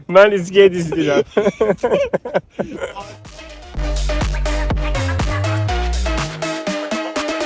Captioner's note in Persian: خنده